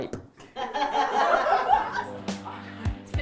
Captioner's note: laughter